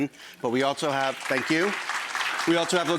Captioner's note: audience clapping